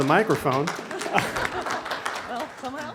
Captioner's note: applause